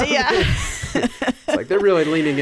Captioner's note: laughing